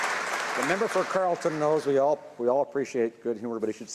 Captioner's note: some Applause